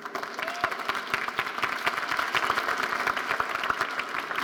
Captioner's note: audience applauding